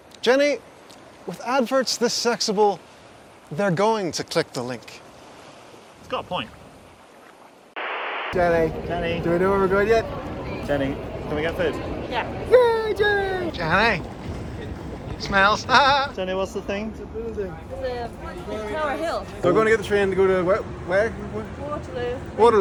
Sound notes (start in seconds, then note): 7.7 static crackles; 14.2 laughs